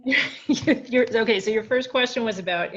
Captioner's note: laughing